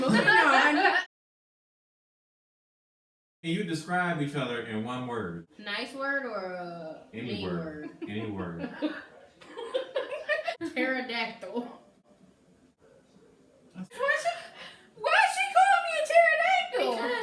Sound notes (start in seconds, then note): 0.0 everyone laughs; 9.5 giggle